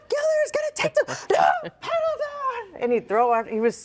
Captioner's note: chuckles